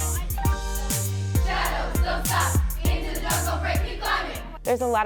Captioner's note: dancers chant